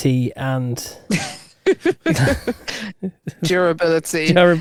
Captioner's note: both laughing